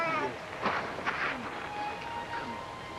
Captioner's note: Mary burbles